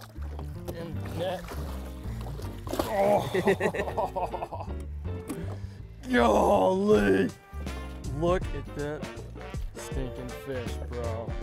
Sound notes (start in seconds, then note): 2.5 water splashing; 2.9 grunts